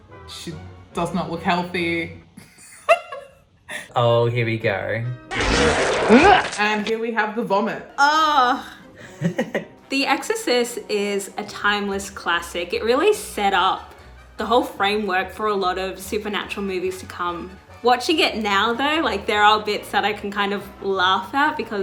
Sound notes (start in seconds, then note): 3.7 laughs; 5.3 scream / Vomiting; 9.0 laughs